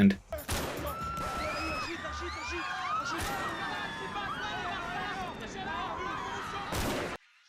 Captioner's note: gunfire, people screaming